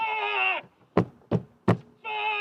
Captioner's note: Max banging